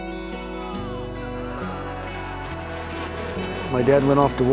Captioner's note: men shouting